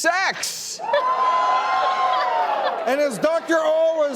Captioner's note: audience cheers